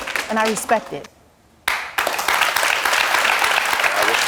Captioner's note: applause